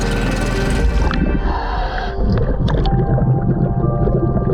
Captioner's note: water bubbling